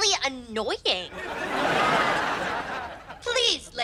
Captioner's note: audience laughs